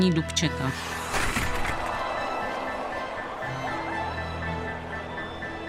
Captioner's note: fandící dav